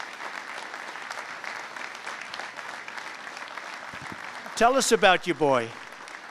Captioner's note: applause